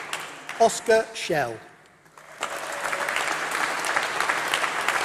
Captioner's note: applause